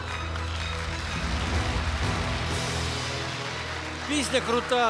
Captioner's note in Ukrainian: оплески